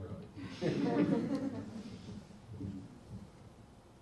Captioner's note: audience laughs